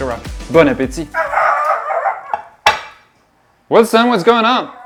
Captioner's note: barking